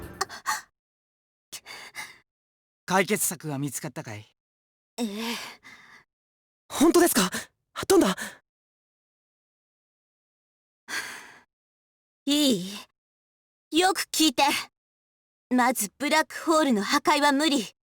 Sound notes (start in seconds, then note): 0.5 gasp; 9.6 silence; 10.9 breath